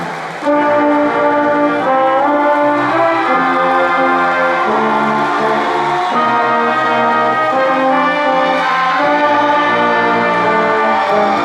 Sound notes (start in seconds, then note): 0.4 ceremonious music continues; 2.7 crowd cheering and applauding